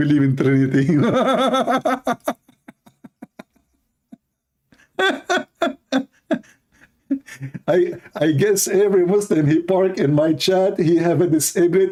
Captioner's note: Ketawa